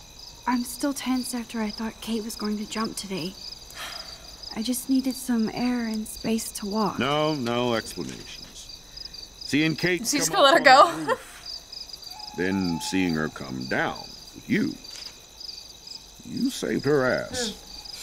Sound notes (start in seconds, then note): 3.7 sighs; 9.7 laughs